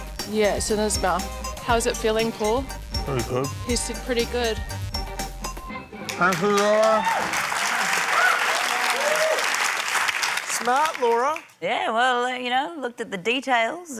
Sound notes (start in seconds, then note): 8.4 cheering, applause